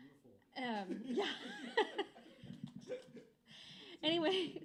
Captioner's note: laughs